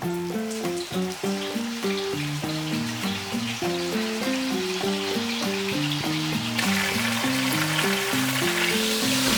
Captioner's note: sizzle